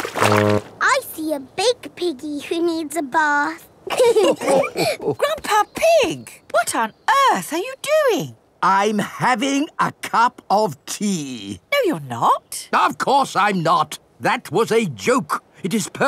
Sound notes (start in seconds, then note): 3.9 all laughing